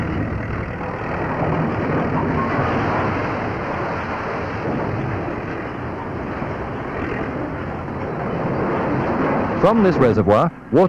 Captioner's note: sound of machinery